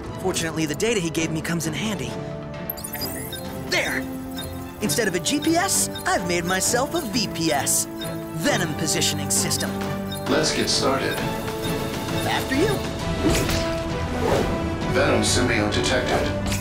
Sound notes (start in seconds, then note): 2.6 beeping